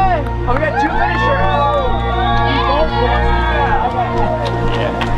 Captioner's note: crowd cheering